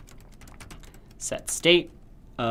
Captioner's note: typing Noises